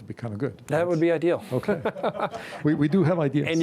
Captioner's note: both laughing